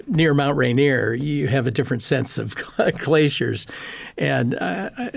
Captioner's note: laughing